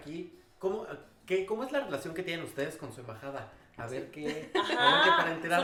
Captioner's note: laughs